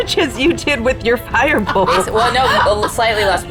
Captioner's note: laughing